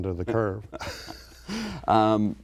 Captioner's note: laughs